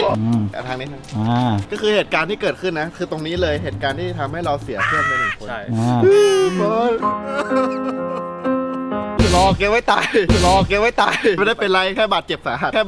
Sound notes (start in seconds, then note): 5.7 sobs; 6.0 sad music playing